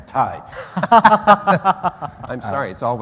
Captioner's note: laughter